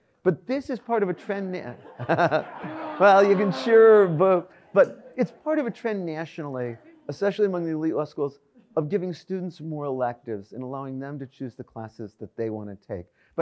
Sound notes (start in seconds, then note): 1.0 audience laughs